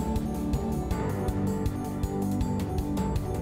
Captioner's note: none